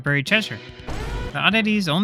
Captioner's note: boom